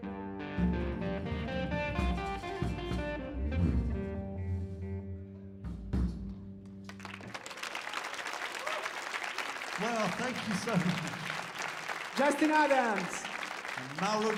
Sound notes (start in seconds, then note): 6.8 people cheering and clapping